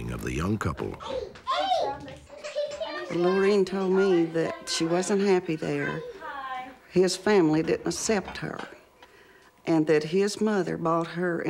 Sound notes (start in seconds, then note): 1.0 children yelling